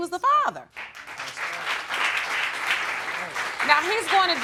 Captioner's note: audience applauds